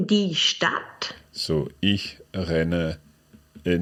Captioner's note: speaks in foreign language